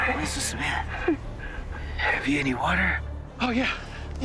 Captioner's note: says in a weak voice